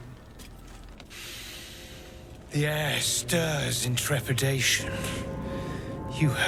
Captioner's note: inhales